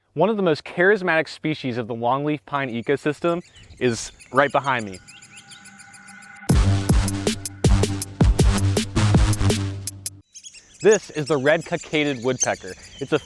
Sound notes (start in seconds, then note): 4.5 birds chirping; 6.0 upbeat music